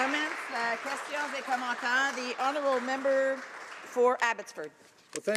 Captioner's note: applause